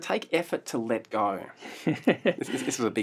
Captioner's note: laughter